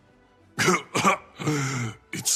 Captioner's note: cough